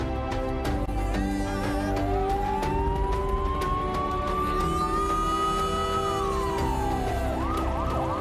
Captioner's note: siren blaring